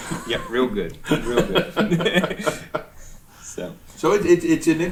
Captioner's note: laughing